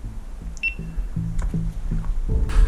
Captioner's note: beep; metallic clinking; scuffling